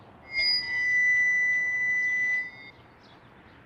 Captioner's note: microphone feedback